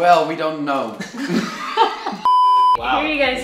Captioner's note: laughing